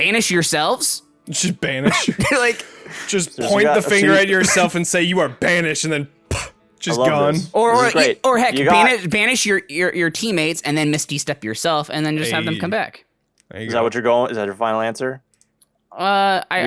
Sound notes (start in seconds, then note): 6.3 poof sound